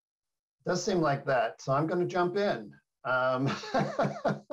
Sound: chuckling

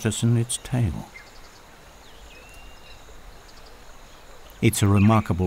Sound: nature sounds

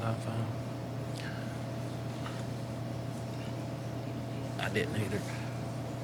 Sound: faintly speaking

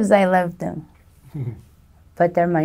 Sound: chuckles

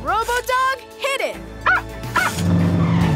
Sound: barking

